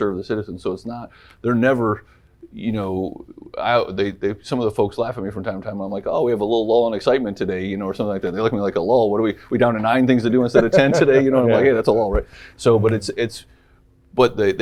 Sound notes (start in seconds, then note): 10.3 laughs